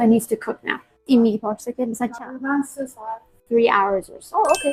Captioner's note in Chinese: 波斯语